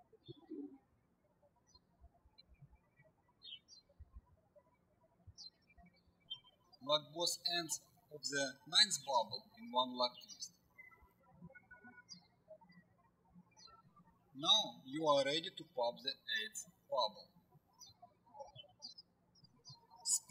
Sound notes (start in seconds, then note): 0.1 birds chirping; 11.7 birds chirping